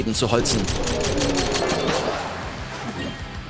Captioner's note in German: Schüsse, gedehnte Laute